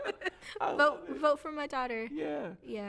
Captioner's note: both laughing